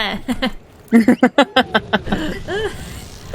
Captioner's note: laughs